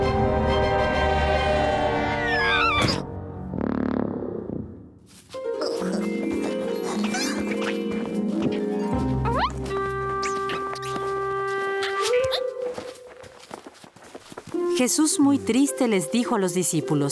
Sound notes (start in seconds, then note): 2.6 thud; 3.1 grunt; 8.5 footsteps